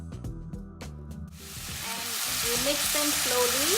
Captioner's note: vegetables sizzling